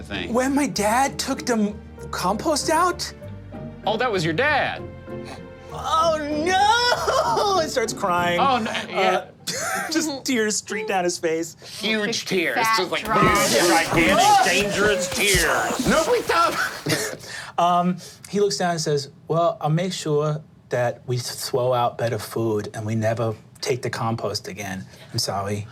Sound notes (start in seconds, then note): 13.1 making explosion sounds